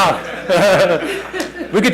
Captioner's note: laughter